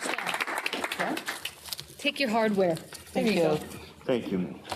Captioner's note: applause